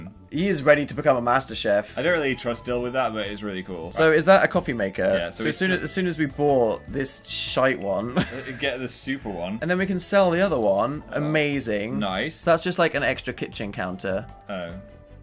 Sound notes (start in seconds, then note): 8.1 laughs